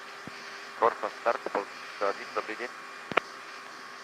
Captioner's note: communications in Russian